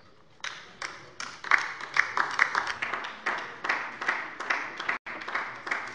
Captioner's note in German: Beifall bei der LINKEN